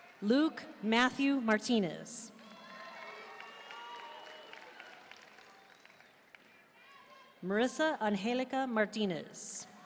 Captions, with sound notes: Luke Matthew Martinez. (audience cheering and applauding) Marissa Anjelica Martinez.